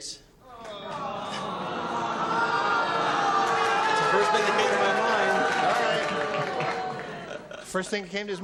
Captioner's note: audience oh-ing